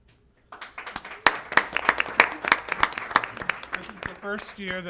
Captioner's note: applause